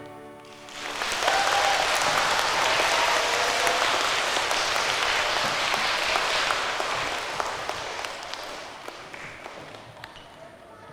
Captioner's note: applause